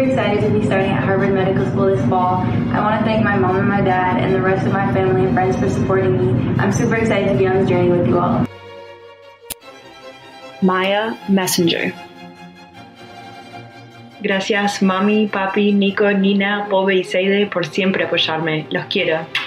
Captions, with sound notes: I'm Angela Mercurio, and I'm super excited to be starting at Harvard Medical School this fall. I want to thank my mom and my dad and the rest of my family and friends for supporting me. I'm super excited to be on the journey with you all. Maia Mesyngier. [NON-ENGLISH SPEECH]